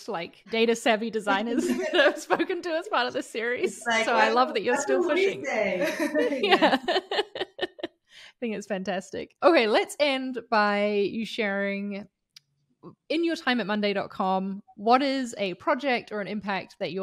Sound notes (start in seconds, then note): 5.5 speaking faintly; 6.4 all chuckles